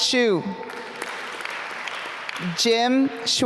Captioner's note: applause